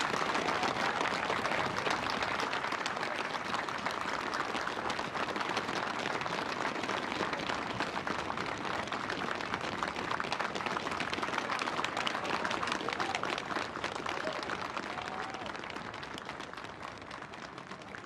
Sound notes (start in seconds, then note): 4.7 cheers and applause